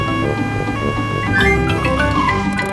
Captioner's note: siren wailing